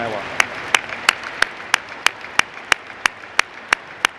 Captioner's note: applause